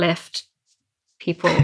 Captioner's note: laughs